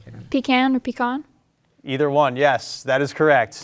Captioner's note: group whispering